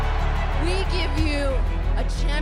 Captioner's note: cheers and applause